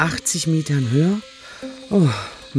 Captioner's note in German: Seufzen